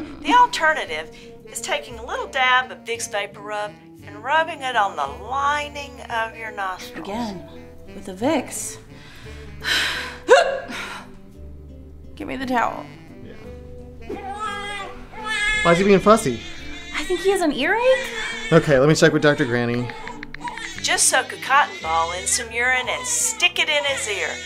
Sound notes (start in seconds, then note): 10.3 big hiccup; 14.2 baby crying